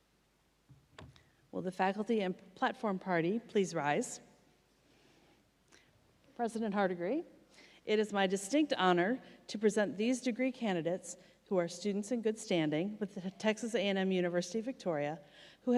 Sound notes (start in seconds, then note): none